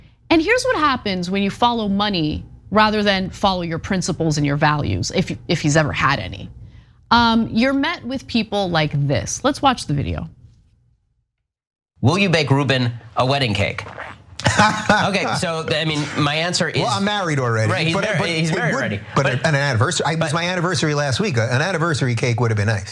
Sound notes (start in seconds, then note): 14.4 laugh